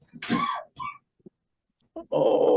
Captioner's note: person coughs